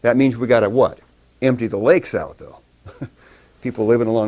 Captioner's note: chuckles